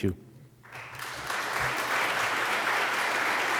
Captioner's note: applause